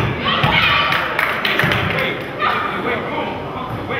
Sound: crowd claps

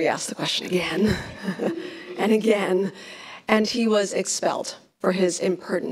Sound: laughs

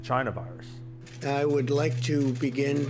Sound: camera shutter sound

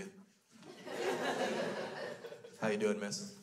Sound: crowd laughs

